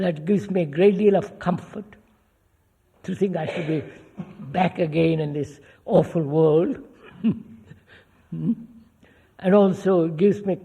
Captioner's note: laughs